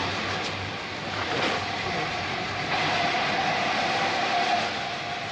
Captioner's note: train arrives